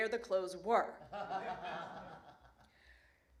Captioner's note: laughter